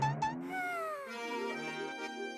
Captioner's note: sighing